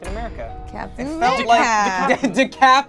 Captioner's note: overlapping chattering